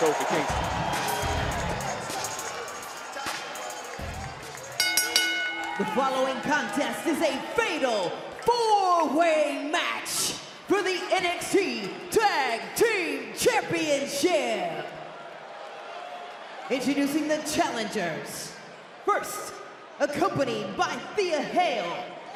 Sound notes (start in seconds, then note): 4.6 bell rings